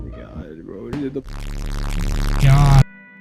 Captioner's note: angry Noises Increase